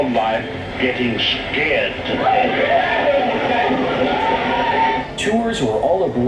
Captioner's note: guests yelling